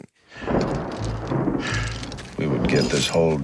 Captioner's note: thunder